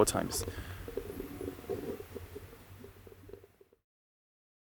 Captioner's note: wind howling